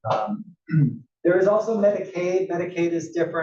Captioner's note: cough